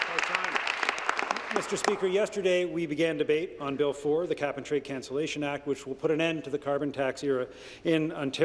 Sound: applause

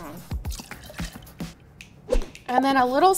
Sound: liquid pouring

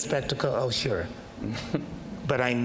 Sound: chuckles

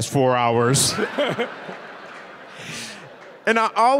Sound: Bob and audience laughing

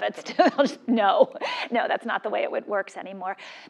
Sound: laugh

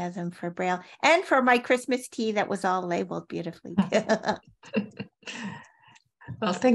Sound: chuckles

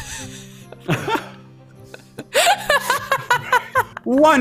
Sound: laughing

